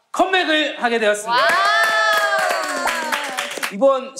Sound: cheering

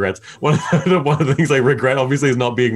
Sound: laughing

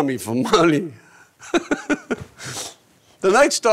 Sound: laughing

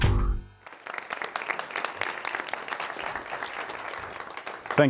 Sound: applause

